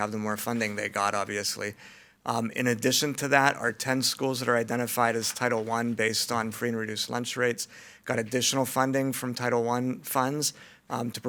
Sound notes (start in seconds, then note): none